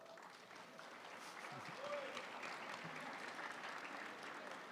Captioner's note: audience applauding